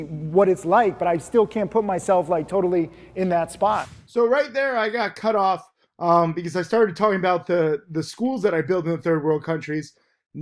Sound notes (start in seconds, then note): 3.6 air whooshes